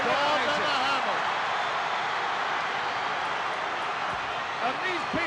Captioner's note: crowd cheering